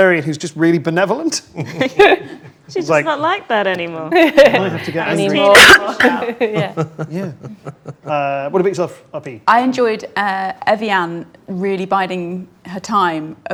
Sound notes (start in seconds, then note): 1.6 group laughs; 5.4 overlapping chattering